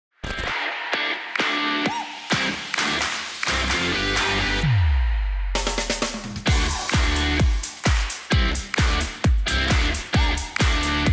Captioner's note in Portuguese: Palmas